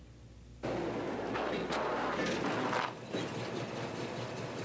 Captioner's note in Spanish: motor do carro roncando